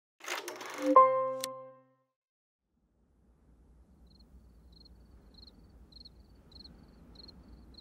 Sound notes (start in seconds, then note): 4.0 crickets chirp